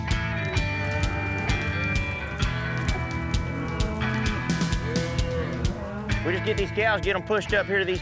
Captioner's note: cattle mooing